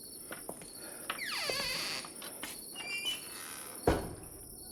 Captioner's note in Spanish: Chirrido de la puerta